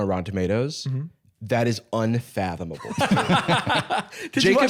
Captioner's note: laughing